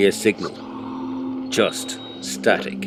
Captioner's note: static - broken eerie words